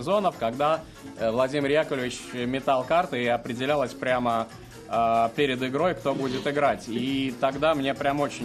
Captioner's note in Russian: фыркает